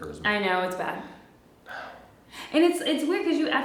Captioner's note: sigh